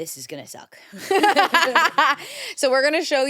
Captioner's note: everyone laughs